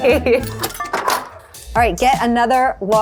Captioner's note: coins clinking